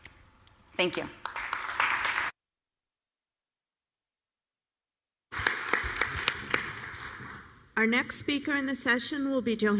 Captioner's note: applause